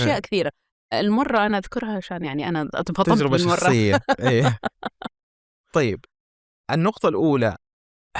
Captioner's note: she laughs